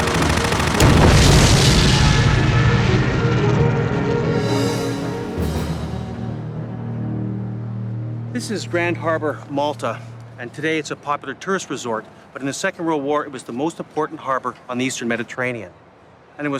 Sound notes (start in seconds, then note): 0.0 gunshot fire; 1.6 airplane explodes; 3.4 dramatic music